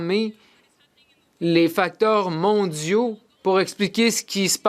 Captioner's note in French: voix de l'interprète